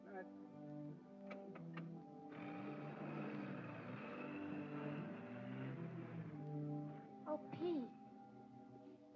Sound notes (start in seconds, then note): 2.2 car rumbles away